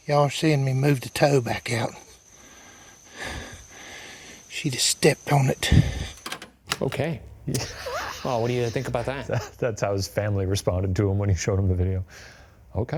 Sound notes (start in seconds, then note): 6.7 transition clacking; 7.4 laughing